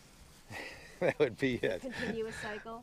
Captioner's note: chuckles